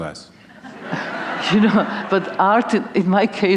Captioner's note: laughter